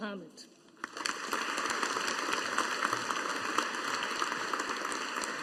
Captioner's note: audience applauding